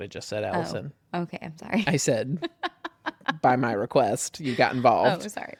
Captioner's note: laughs